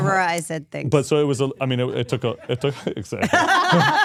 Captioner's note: all laughing